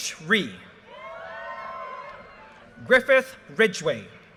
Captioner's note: audience cheers and applause